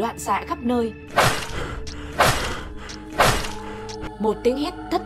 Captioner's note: chaotic slashing sound